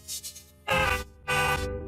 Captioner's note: distorted, broken scream